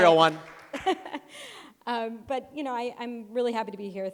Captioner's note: chuckles